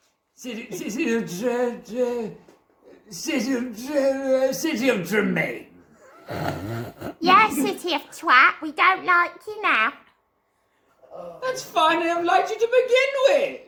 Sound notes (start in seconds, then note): 6.2 obscene snorting